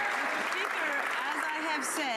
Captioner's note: some Applause